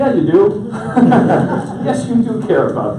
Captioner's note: audience laughs